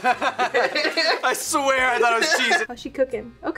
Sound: laughs

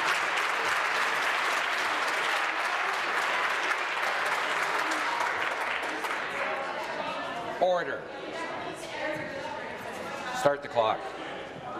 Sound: applause

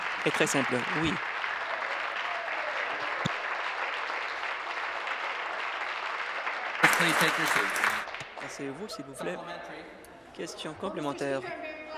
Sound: applause

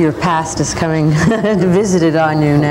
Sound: laughs; laughter

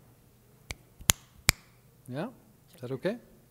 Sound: fingers snapping

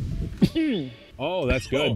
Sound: coughs

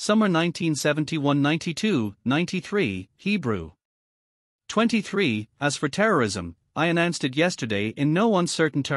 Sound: Hebrew

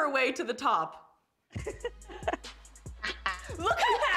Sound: laughter

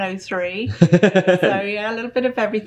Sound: loud laughing

